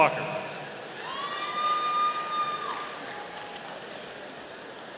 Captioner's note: audience cheering